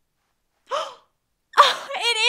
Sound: gasps

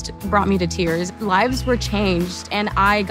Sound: attendees applauding

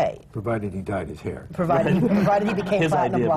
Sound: laughter

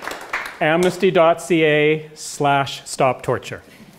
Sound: applause

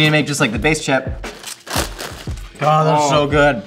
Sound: crunch

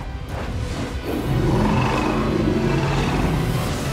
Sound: Hoarder roaring

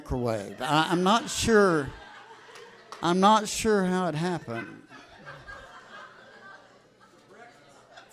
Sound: audience laughs

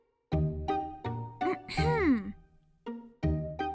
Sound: clears throat

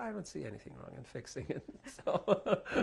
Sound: laughter

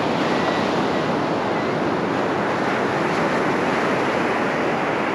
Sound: the distant sounds of Gulls calling

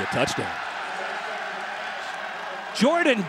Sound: crowd cheering

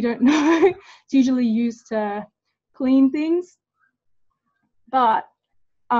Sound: laughs

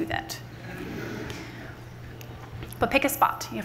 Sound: laughter from the audience

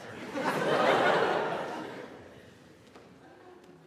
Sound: audience laughs

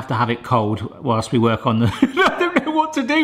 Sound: laughing

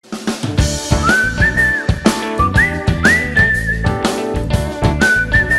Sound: whistling

